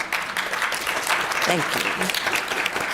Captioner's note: applause